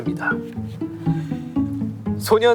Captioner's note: hahaha